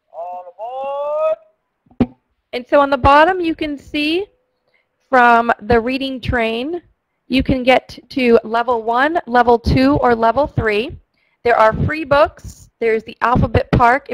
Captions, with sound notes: - [Voiceover] All aboard! - [Voiceover] And so on the bottom you can see, from the Reading Train, you can get to Level 1, Level 2, or Level 3. There are free books, there is the alphabet park